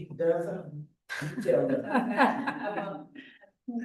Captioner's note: chuckling